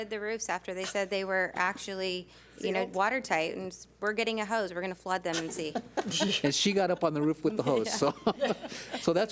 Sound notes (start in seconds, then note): 5.3 several board members laugh; 7.6 laughs